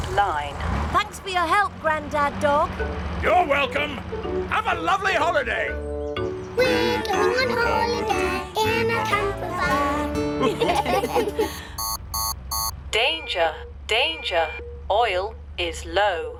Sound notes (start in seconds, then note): 10.4 laughter; 11.6 beeping